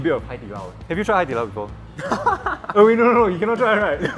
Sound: laughs

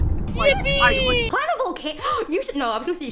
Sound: gasp

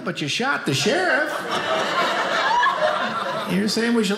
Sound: audience laughing

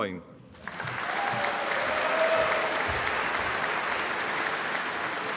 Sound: audience applauding

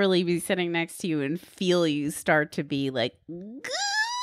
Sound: squealing

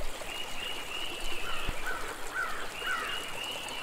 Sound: water flowing and birds chirping; crow cawing; water flowing and birds chirping

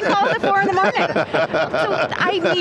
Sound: laughs

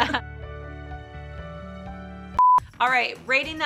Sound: all laughing; soft music; screen beeps

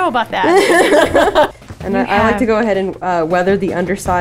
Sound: laughs loudly

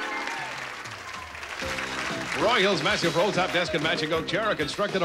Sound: audience applauding

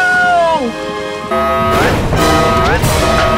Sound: alarm sounding

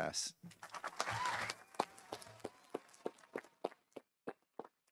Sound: audience applauding

